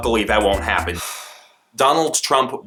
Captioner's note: sigh